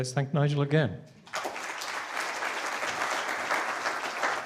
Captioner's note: applause